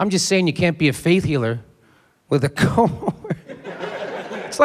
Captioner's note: laughs